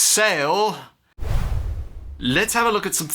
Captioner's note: whoosh